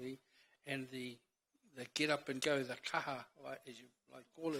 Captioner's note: speaks in foreign language